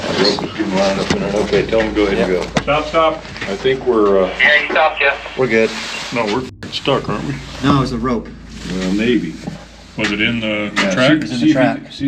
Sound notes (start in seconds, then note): 5.8 beep